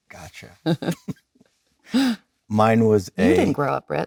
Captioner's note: Leonardo and Jennifer laughing